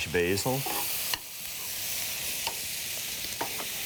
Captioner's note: food sizzling